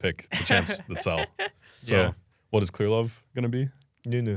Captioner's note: laughs